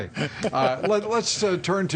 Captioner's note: laughter